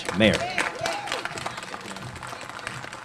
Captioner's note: applause